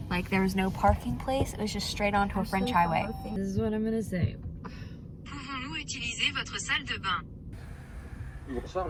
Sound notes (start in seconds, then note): 5.9 sat nav speaks French; 7.5 drive thru man speaks French